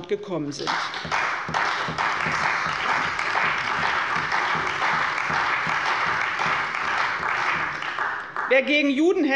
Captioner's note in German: Beifall bei der CDU und dem BÜNDNIS 90/DIE GRÜNEN